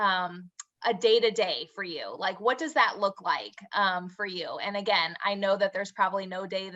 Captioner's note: lips smack